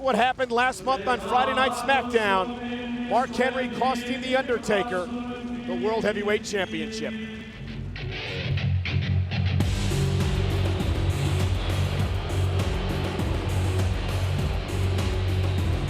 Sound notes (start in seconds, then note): 8.6 heavy metal music; 9.8 crowd booing